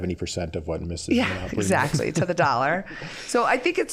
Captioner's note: all chuckling